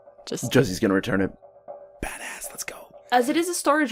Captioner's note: whispers